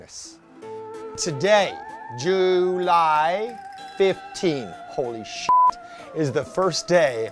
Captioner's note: beeping